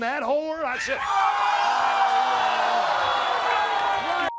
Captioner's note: cheers